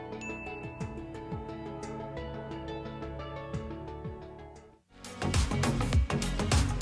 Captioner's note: bell dinging; upbeat music